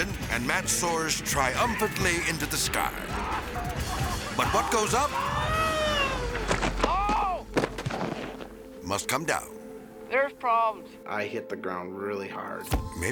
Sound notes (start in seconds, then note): 5.3 soundbite whizzing; 6.3 thudding